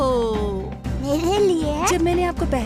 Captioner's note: laughs